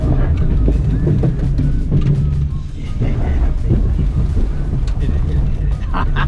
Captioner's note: engine revving; stones crunching